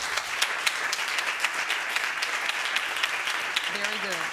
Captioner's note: audience applauding